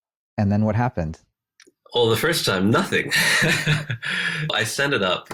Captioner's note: laughs